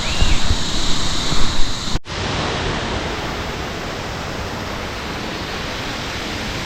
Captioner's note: sounds of birds and water gushing below